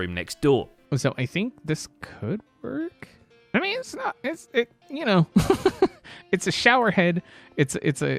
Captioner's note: laughs